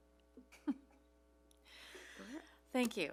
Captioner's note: chuckles